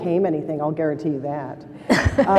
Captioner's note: laughter